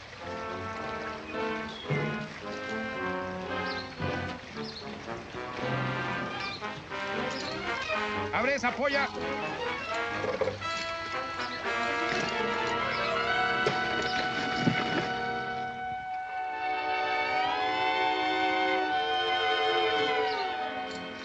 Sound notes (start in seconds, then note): 0.1 worrying music; 13.4 thud; 16.5 joke worrying music